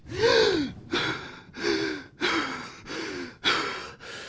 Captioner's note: Dan panting